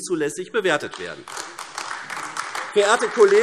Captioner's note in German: Beifall AfD